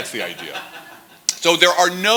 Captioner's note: laughter